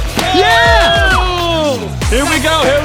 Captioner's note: cheering